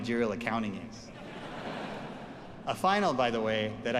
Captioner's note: audience laughs